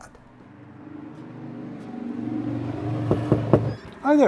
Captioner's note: passing engine revs; knocking on door